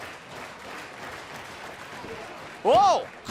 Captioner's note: clapping